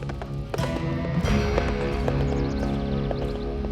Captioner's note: horse approaching